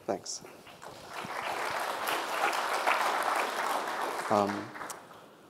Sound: audience applauding

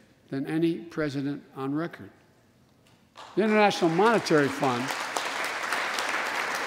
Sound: applause

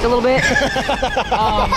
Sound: laughing

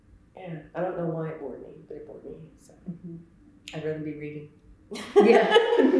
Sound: laughs

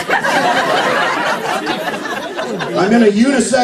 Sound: laughter

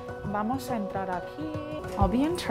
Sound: non-english speech

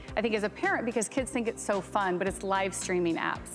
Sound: none

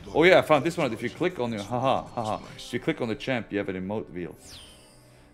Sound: laugh

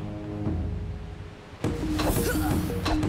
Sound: grunting

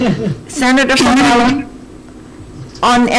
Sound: glitch

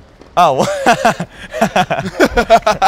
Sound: laughting

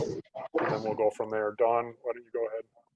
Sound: mic static

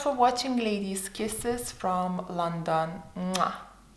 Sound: lips smacking

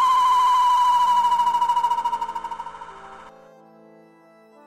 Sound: wind howls

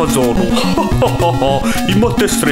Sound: slight laugh

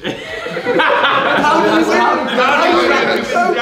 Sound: laughing

